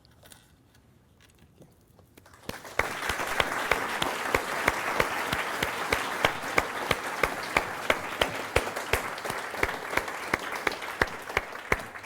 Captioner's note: applause